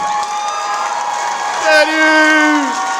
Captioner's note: audience cheering